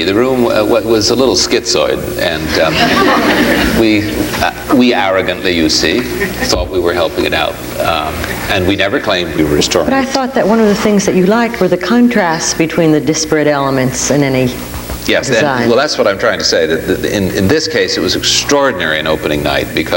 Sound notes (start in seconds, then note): 2.4 audience laughs